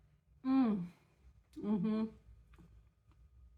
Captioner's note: happy mouth noises